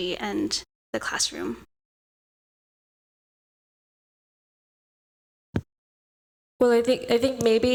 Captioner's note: audio out